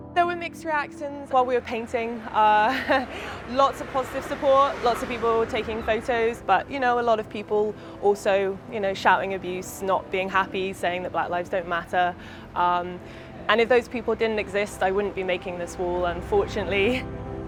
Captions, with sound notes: There were mixed reactions while we were painting. (laughs) Lots of positive support. Lots of people taking photos, but you know, a lot of people also shouting abuse, not being happy, saying that black lives don't matter, and if those people didn't exist, I wouldn't be making this wall, unfortunately.